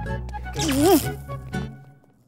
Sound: electricity crackling

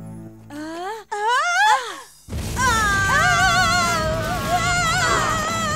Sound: screaming

